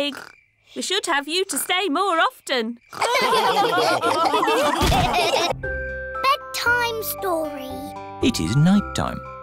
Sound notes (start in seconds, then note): 3.0 all laughing